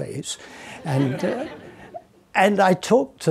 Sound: audience laughing

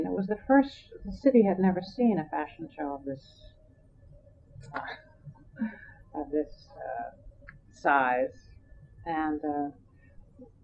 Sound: laughs

